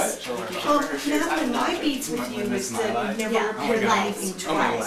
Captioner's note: group chattering